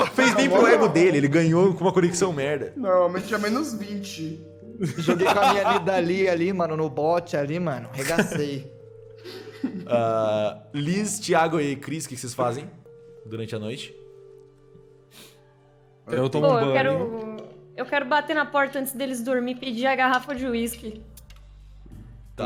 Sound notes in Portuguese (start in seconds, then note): 4.8 risada